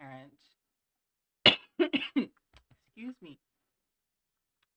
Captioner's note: coughs